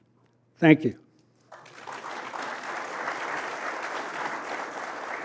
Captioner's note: applause